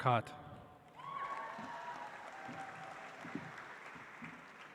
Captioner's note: audience applauds